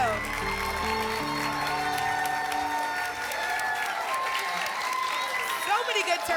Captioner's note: applause and cheering